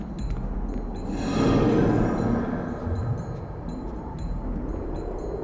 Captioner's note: swooshing; light rhythmic music continues